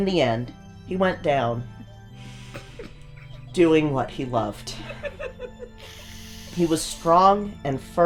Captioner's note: snickers